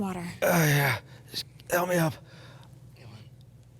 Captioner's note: moans